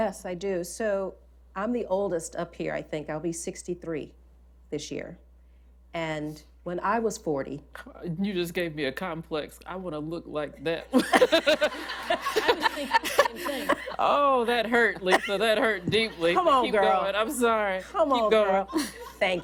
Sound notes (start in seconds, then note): 10.9 laughter